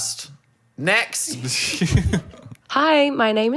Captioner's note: laughing